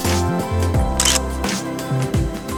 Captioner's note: photo click